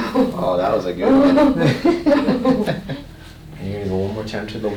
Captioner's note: patient and chuckling